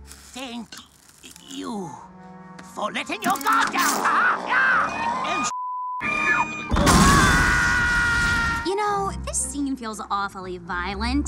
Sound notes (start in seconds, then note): 5.2 beep